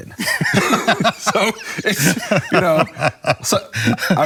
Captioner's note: laughs